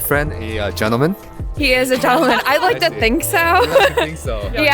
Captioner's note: laughs